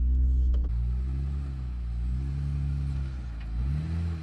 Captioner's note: car engine hums